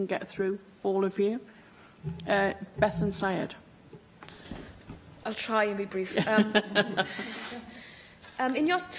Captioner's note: laughter